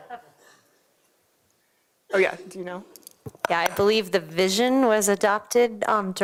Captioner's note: laughter